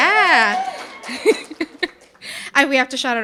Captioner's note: audience cheering and applauding; chuckling